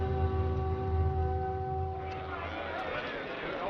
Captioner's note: all murmuring